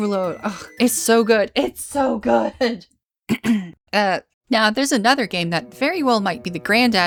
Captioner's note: clears throat